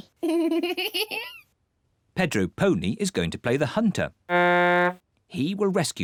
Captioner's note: giggles; blows horn